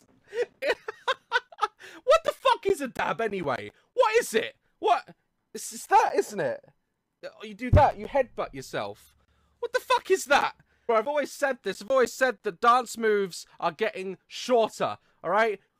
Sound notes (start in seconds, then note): 0.4 laughing; 7.7 hits his mic